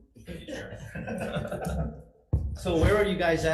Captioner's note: assembly laughs